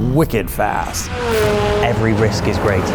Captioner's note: car engine revving